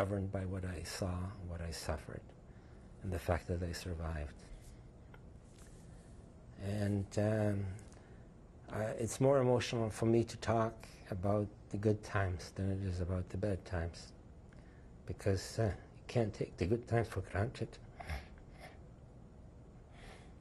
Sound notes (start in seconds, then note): 15.0 voice breaks; 19.4 tearful